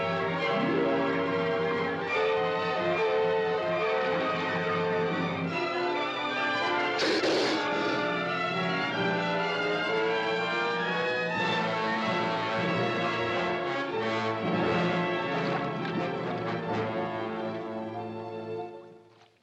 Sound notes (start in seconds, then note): 7.0 snake hisses; 7.0 dramatic music